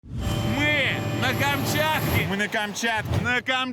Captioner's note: helicopter blades whirring